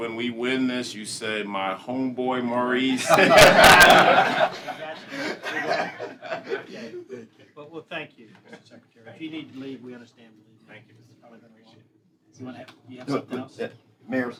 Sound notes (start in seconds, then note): 3.0 laughter